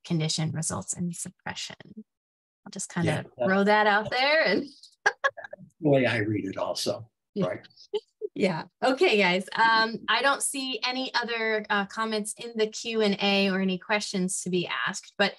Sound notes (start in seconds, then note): 5.0 laughs